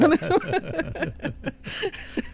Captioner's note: laughter